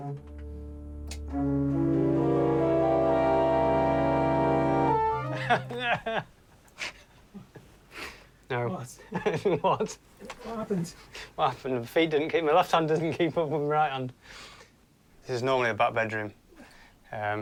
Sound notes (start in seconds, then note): 5.2 laughing